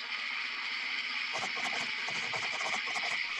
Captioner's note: typing